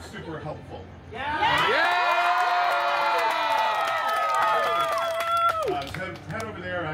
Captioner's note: guests cheering “Yeah!”